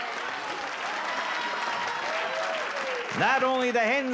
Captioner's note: applause